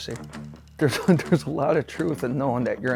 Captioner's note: laughs